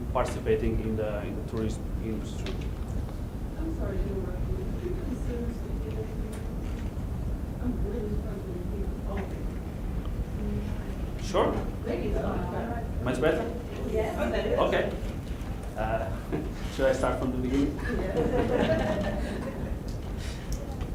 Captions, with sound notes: participating in the tourist industry. - [Voiceover] I'm sorry. (talking in background) - Sure. (talking in background) Much better? - [Voiceover] Yes. - [Voiceover] All better. - Okay. (laughing) Should I start from the beginning? (laughing)